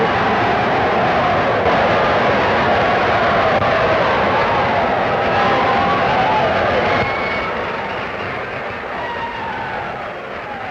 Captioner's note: cheers, applause